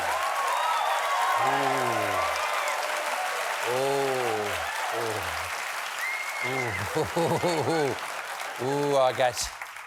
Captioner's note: applause